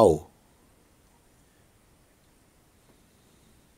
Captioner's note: silence